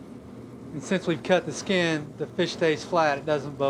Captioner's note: voiceover